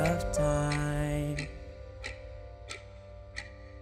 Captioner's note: clock ticking